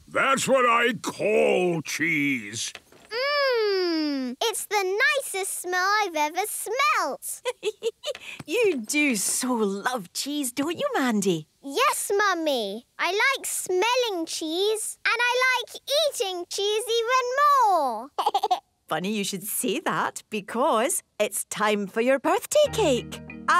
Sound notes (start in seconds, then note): 7.4 giggling